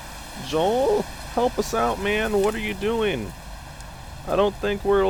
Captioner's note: voice cracks